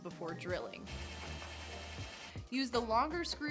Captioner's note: drill whirring